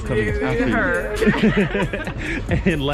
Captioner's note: all laughing